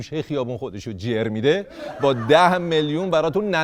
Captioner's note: laughter